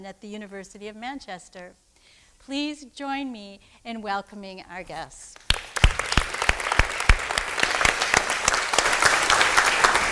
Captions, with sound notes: at the University of Manchester. Please join me in welcoming our guests. (audience applauding)